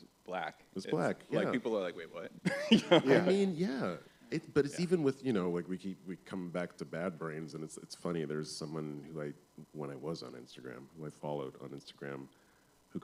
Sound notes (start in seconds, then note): 2.4 laughs